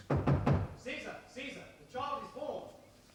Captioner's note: knocking